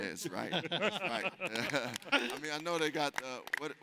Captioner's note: laughs, applauding